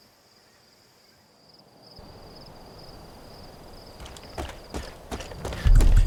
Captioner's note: crickets chirping; footsteps thudding